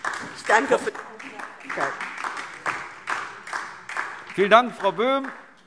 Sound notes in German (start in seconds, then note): 2.5 Beifall DIE LINKE und vereinzelt SPD